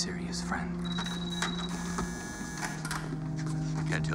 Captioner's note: door buzzes